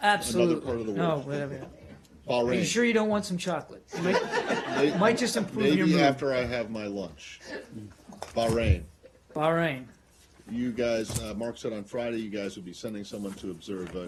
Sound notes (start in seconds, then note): 3.9 laughter